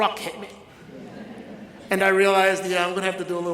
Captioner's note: audience laughs